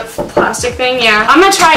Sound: knock on door

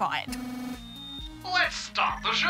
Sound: electronic buzzing

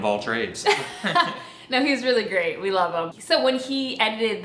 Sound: laughs

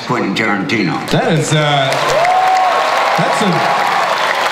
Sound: audience cheering

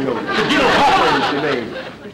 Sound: audience laughter

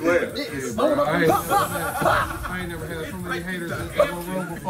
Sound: laugh

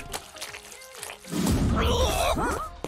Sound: gagging

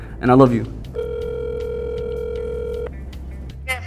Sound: dial tone rings

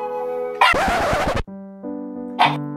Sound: perfectly cut shiba screams, barks and growls

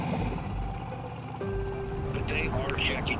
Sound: boat engine pattering

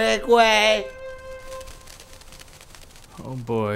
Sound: wings fluttering

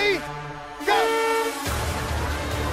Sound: hooter honks

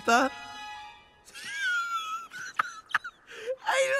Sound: Olaf Laughs

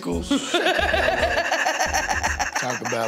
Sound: laughter

